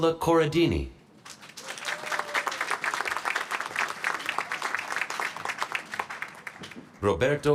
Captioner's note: applause